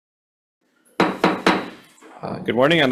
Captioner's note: gavel banging